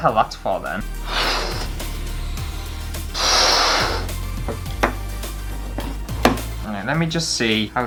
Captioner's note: balloon Sounds